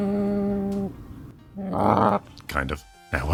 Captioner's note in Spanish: gruñido amistoso